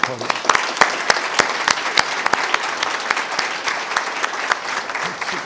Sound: audience applauding

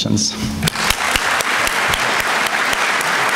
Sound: applause

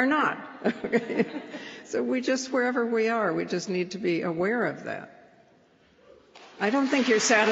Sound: laughs

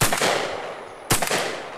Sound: gunshots

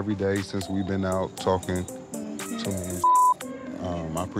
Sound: beep

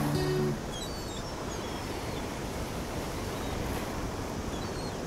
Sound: ocean sounds

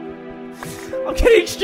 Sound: dramatic sniffle

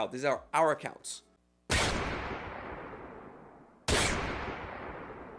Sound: gun fires

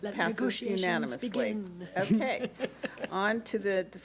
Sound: laughs

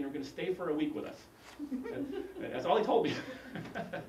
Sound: laugh

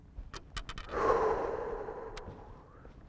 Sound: deep sigh

